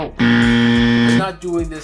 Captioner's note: buzzer beeps